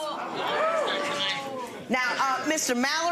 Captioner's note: audience cheering